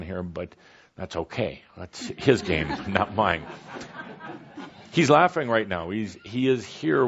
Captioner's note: laughter